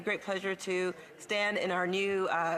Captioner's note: speaking French